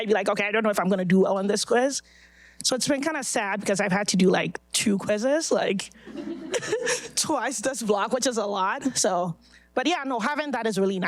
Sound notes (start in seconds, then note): 6.0 audience laughing